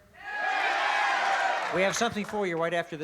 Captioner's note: cheering